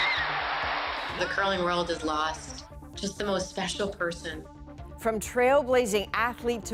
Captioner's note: cheers and Applause